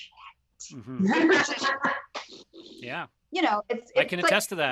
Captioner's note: laughs